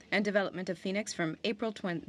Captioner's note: speaking French